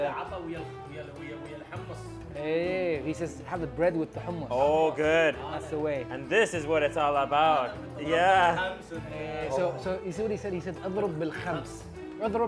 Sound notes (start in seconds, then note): 0.1 man speaking in foreign language; 8.0 man speaking in foreign language; 10.3 speaking in foreign language